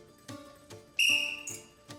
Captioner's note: blows whistle